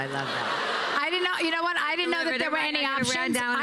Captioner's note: laughter